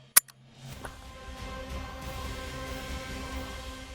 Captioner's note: gunshot